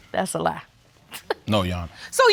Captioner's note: laughs